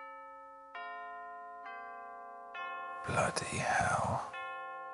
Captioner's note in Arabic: رنين جرس الباب